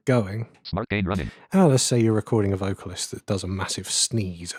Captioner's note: automated voice